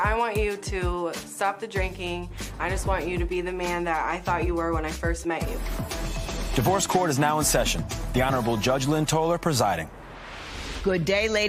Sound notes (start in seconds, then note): none